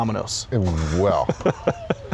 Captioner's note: laughs